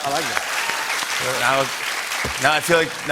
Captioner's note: cheers and applause